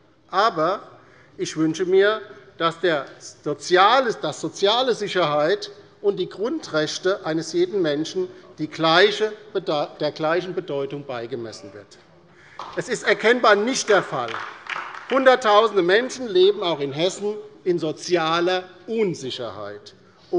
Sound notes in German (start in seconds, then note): 12.5 Beifall bei der LINKEN